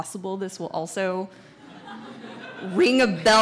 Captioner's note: audience laughs